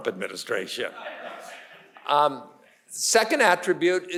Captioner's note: audience laughing